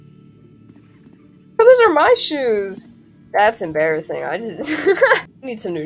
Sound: laugh

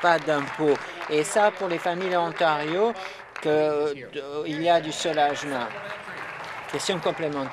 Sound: applause

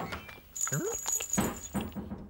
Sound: chain Jingles

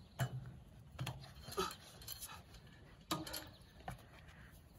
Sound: panting

